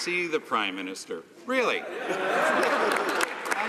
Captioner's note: some Applause